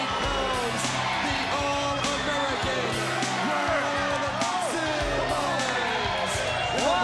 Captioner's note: crowd cheering